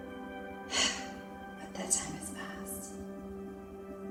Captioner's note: sigh